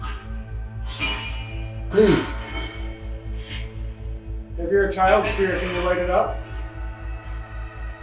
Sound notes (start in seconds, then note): 3.3 radio noise hissing continues